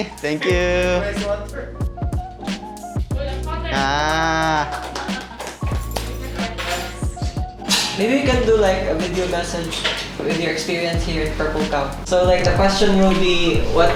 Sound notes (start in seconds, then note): 1.6 soft beat music; 4.4 invitees clapping; 5.7 keys jangling